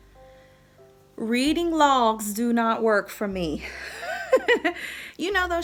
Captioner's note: laughs